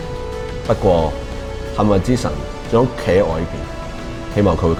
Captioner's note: processed sound